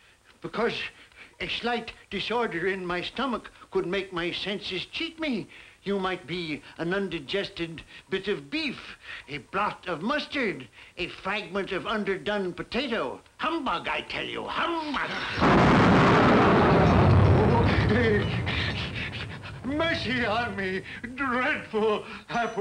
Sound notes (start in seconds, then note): 15.8 Marley growling; 18.1 Ebenezer moaning